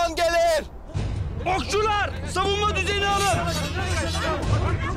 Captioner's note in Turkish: Kılıç Sesleri; Uğultu ve Koşuşturma Sesleri